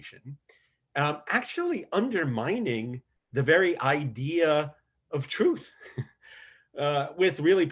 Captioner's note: laughs